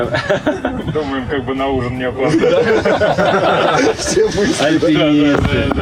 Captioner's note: laughter